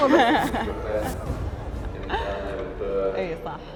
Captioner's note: laughing